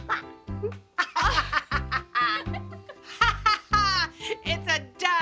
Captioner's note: laughing